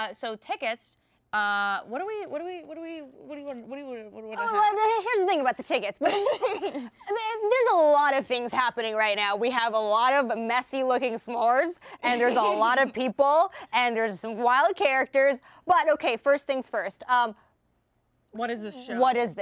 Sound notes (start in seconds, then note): 6.0 laughter